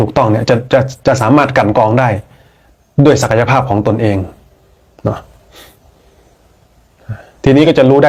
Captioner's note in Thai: เสียงสูดหายใจ